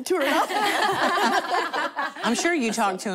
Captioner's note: laughter